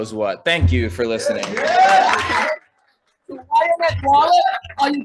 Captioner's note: audience applauding